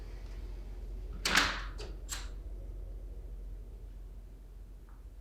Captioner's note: door slamming